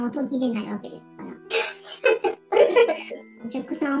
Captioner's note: laughs